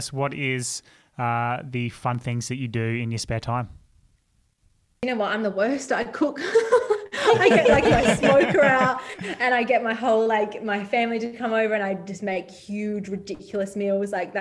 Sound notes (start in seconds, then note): 6.5 all laugh